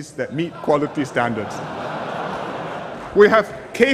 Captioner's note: laughter